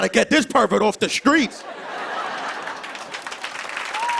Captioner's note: laughter; cheers and applause